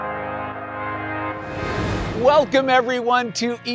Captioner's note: air whooshing